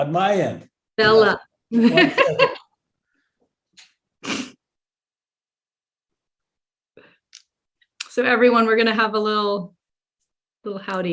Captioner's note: laughs